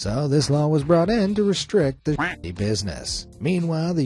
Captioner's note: quacks